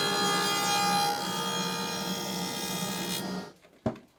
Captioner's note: saw buzzing